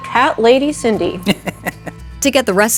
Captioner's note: laughs